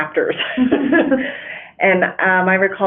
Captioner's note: laughing